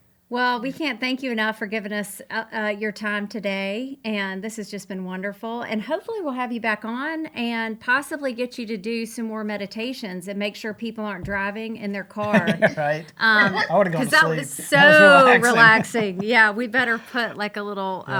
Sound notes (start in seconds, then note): 12.2 laughs